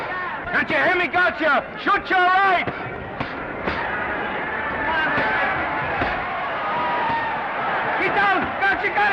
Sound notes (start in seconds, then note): 2.9 crowd cheering; 2.9 punches thudding